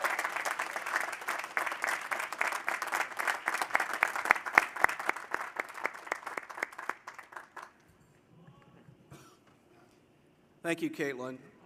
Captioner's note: cheers and applause